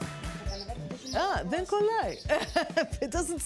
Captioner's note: speaking greek